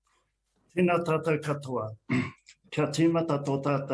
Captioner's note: clears throat